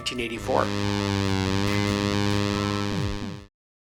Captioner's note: highly revved engine